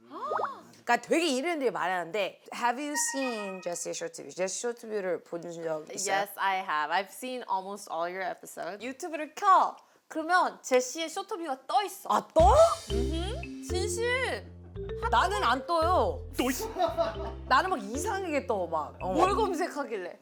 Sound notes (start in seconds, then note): 16.2 pff